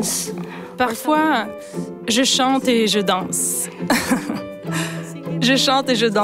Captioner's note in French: rire